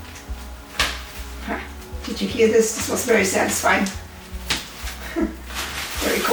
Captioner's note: magnet snapping together; laughs